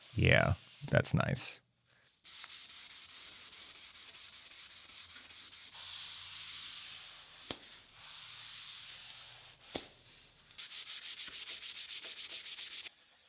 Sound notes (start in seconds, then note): 2.8 Scotch-Brite rasping